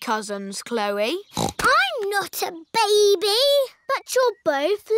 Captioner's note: snorts